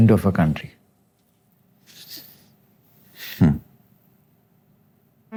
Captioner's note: inhales deeply, chuckles